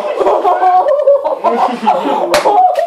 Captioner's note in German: Klatsch